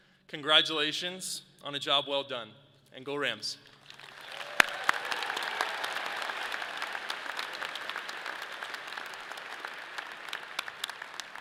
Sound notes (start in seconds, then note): 3.8 audience applauds